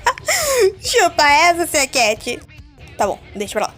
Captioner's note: soft laughter